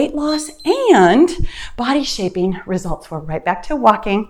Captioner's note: timer beeps